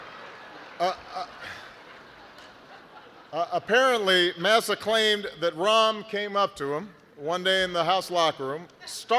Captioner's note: laughter